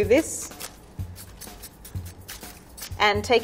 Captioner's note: knife chaffing through leaf